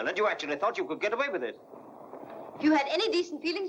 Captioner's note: none